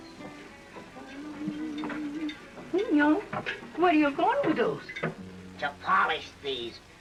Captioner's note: humming